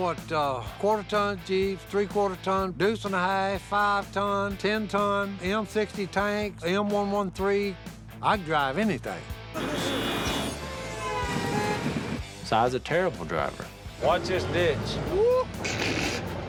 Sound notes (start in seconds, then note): 9.5 horns honking; 15.1 Si laughing